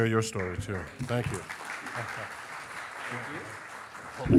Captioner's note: audience applauding